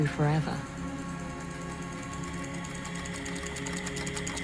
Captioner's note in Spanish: escribiendo continúa